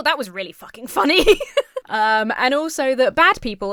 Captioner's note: laughs